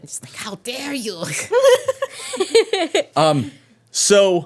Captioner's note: women laughing